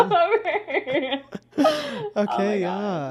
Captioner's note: both laughing